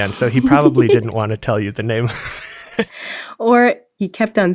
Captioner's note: laughs